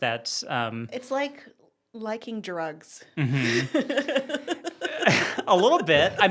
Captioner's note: laugh